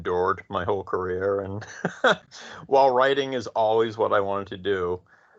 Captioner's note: chuckles